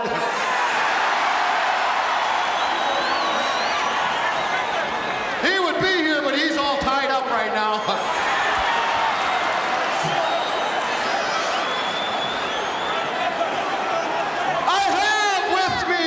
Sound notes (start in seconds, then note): 0.1 audience cheering; 9.3 laughs